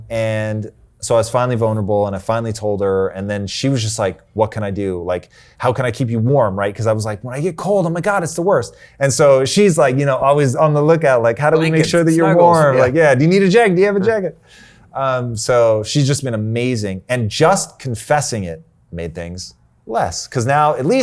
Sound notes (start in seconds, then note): 11.5 murmuring